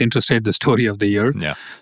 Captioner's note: laughs